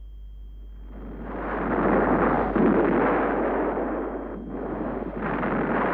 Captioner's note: continuous explosions